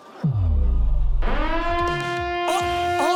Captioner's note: siren wails